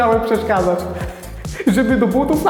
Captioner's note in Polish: Śmiech Antka